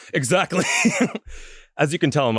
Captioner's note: laughs